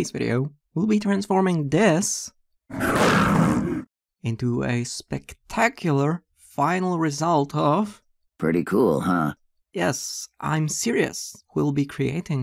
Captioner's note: roar